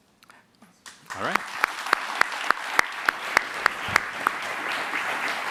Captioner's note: applause